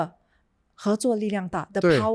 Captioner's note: speaking in Chinese